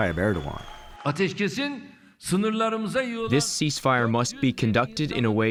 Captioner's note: through translator